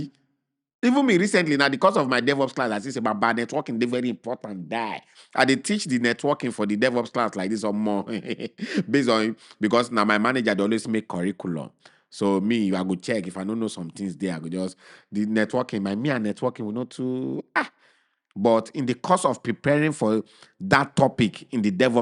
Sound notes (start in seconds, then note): 7.8 chuckles